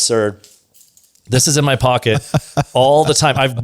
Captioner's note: laughs